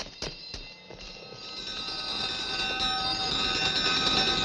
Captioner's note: bells clanking